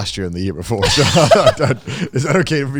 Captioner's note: laughs